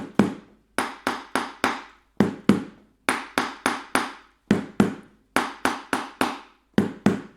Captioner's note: hollow tapping sound